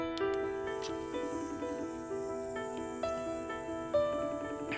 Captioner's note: line ringing